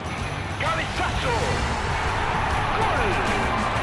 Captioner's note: crowd cheers